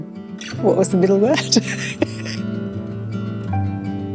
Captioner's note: laughs